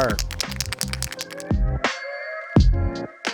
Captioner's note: can rattling